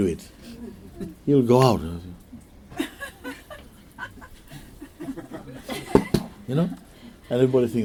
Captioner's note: makes gunshot noise